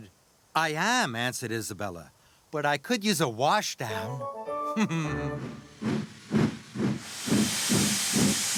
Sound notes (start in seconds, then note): 4.6 chuckles